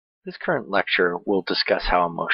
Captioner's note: voiceover